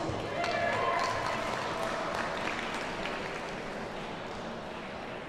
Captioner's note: audience cheers and applauds